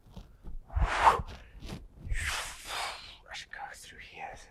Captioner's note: exhales loudly